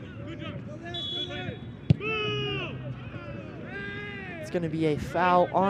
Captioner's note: whistle blows